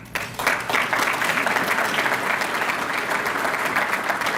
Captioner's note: applause